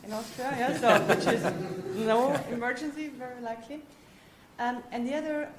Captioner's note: laughter drowning out speaker